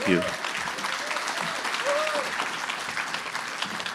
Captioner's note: applause